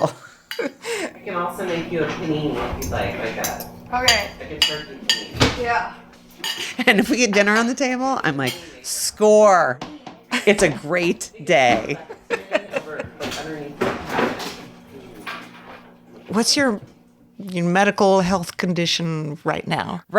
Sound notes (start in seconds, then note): 0.0 laughing; 11.9 laughing